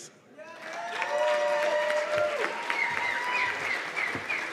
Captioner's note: cheers and applause